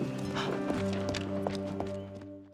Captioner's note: footsteps